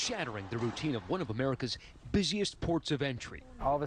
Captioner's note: gunshots